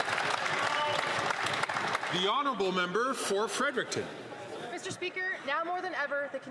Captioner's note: some Applause